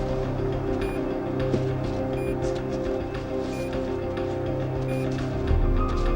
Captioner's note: suspenseful music; GPS beeping